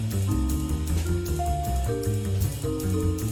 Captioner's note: none